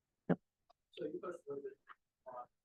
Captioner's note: speaking faintly